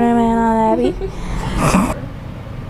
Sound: laughter

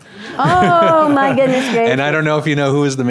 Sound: laughs

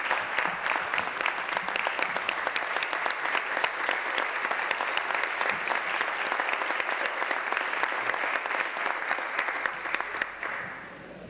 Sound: applause

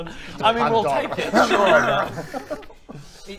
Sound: rwrr-rrra

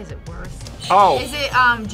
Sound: buzzer rings

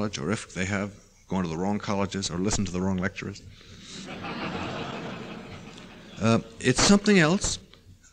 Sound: laughter

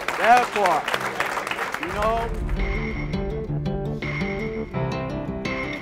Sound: applause and soft music

